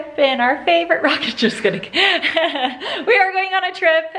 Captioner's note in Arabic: يضحك